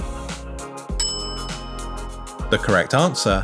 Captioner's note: bell rings